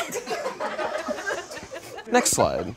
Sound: audience laughs

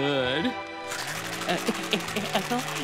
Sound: chomping

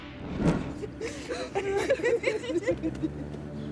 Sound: laughing

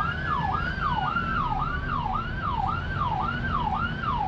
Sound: ambulance sirens wail

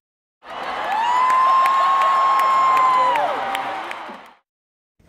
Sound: cheering

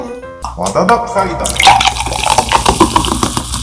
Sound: soda pop

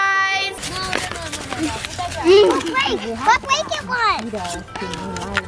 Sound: children clamoring

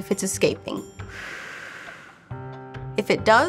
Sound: blows

